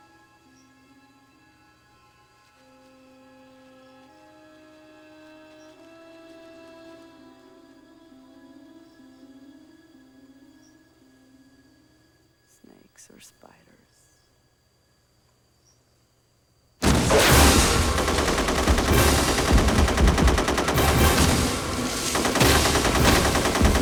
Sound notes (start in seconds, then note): 16.8 automatic Weapons Fire; 16.8 explosion